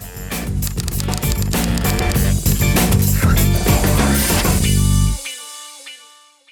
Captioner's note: upbeat music; typewriter clicking